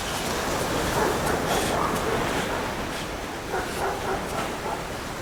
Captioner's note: dogs barking